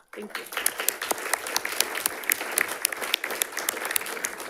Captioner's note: audience applauds